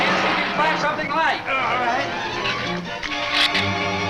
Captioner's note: groans; shrews chatter